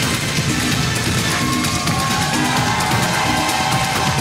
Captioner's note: crowd cheering